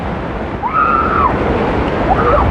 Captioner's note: excxcitited s scrcreamim